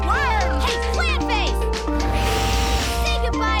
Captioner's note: hissing